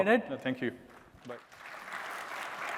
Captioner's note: applause